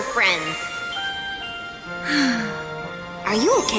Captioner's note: sighs happily